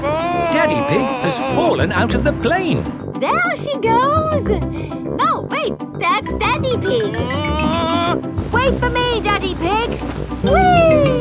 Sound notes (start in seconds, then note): 7.7 screaming